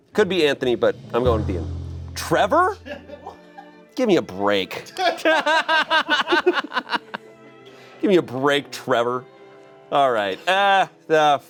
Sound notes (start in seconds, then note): 1.0 deflated music; 5.0 everyone laughs